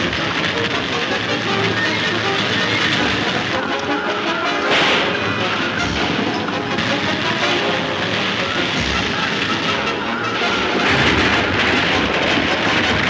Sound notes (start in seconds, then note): 2.9 gun firing; 9.8 wagon top crashing